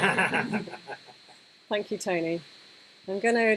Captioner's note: laughter